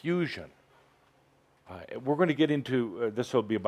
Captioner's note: none